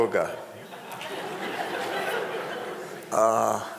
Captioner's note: crowd laughing